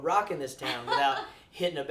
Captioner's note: laughs